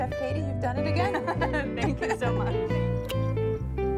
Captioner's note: laughing